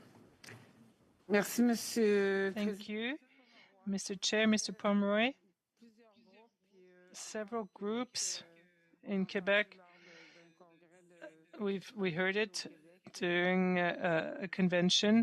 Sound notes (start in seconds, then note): 9.6 speaking French